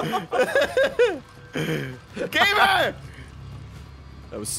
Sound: laughs

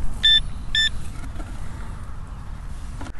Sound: beeping

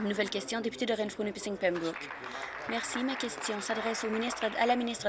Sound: applause

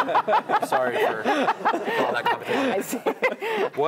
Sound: laugh

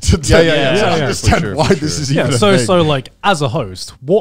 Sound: group chattering

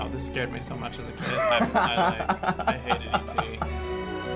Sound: chuckling

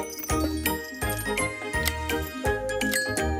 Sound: none

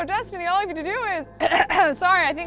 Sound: coughs

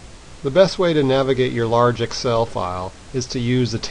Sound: voiceover

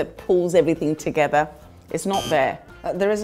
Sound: buzzer buzzes

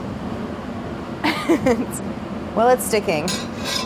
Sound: laughs

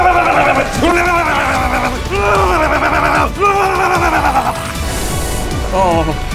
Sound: aggressive helelelele

